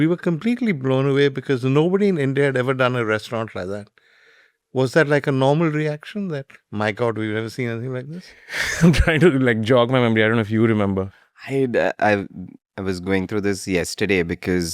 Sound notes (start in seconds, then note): 8.5 laughs